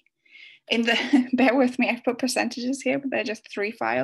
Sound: giggles

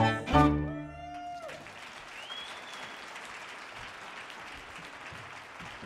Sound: audience cheers and applauds

